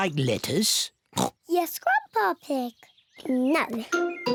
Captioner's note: oinks